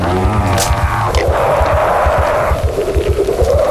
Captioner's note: squishing; shouting deepens, distorts